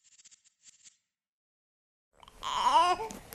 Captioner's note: baby fussing